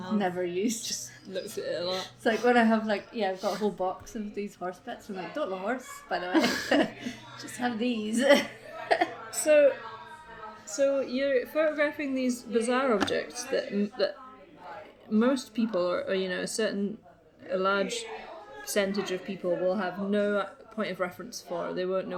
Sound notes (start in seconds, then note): 6.2 both laugh; 8.0 laughs